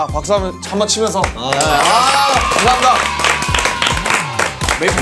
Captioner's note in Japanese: パチパチパチパチパチ